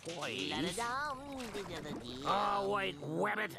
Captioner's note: Bugs humming